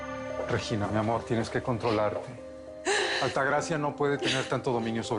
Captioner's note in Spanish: Ella solloza